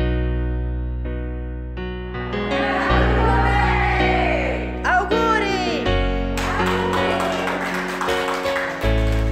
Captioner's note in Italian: Coro di voci; Applausi